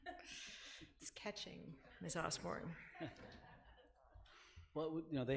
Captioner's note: laughing